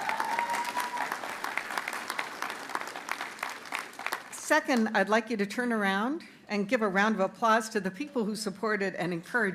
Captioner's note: cheers and applause